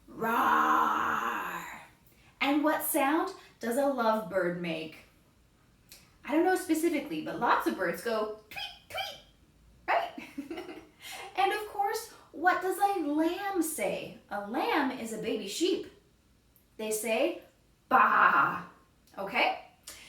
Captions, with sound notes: Raawwwrrr! And what sound does a lovebird make? I don't know specifically, but lots of birds go "tweet, tweet" right? [laughs] And, of course, what does a lamb say? A lamb is a baby sheep. They say "baa," okay?